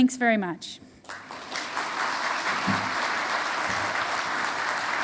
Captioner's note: audience applauding